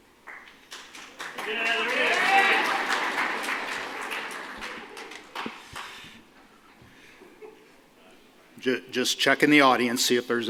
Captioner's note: applause